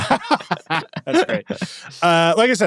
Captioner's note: hosts laughing